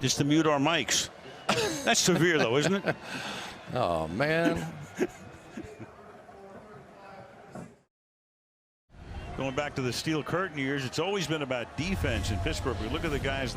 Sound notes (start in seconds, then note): 4.5 laughs; 6.4 pa announcement